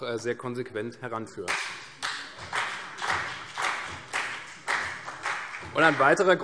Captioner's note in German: Beifall CDU und BÜNDNIS 90/DIE GRÜNEN